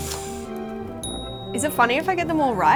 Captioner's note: bell dinging